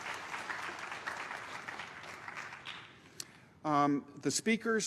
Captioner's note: applause